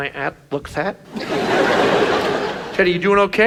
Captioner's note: audience laughs